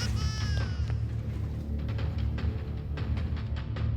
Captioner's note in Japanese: 泣き声